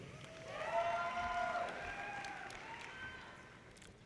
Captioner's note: audience cheers